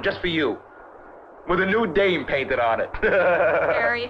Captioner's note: laughs